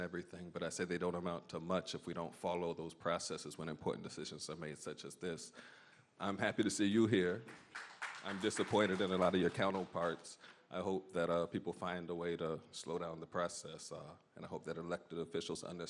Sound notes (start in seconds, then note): 11.4 applause